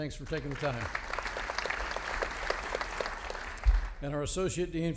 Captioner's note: audience applauding